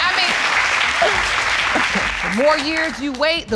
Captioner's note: audience applauding